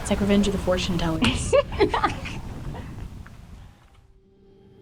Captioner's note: Allie laughs